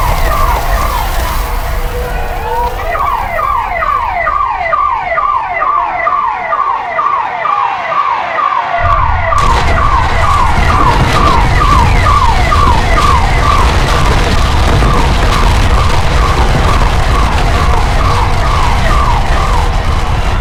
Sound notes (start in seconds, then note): 2.7 people panicking; 16.5 sirens, alarms, fire